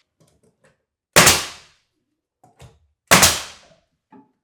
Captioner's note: nail gun popping